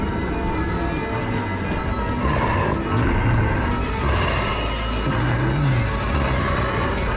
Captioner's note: tense orchestral music; monster growling